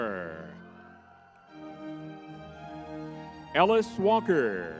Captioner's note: crowd cheering; lively music